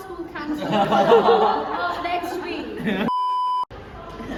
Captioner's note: everyone laughs